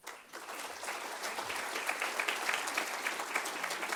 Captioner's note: audience applauds